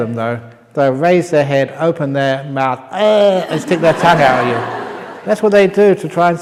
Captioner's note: laughter